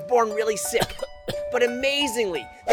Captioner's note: cough